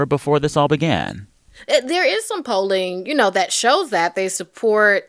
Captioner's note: none